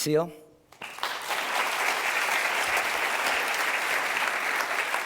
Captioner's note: applause